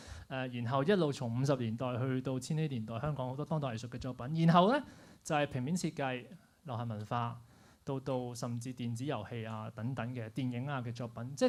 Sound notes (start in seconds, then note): none